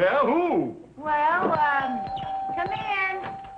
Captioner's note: doorbell ringing